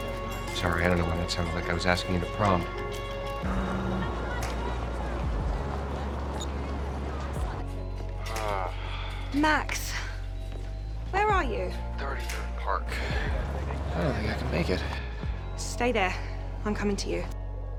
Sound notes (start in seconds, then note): 3.4 Max's phone buzzes; 8.2 Max sighs over the phone